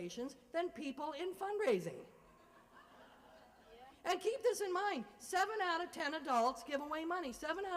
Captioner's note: laughter